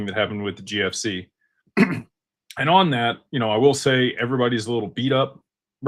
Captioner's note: clears throat